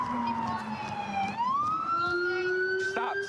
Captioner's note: sirens